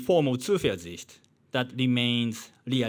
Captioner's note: man speaking in foreign language